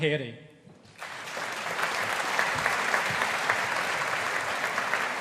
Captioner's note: audience applauding